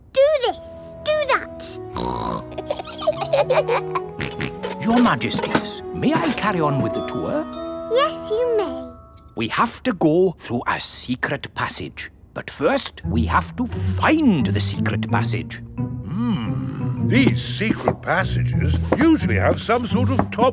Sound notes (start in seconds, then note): 1.9 snorts; 2.3 both giggle; 4.1 snorts